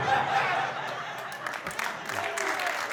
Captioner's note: laughter; applause